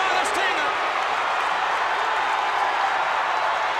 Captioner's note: audience cheers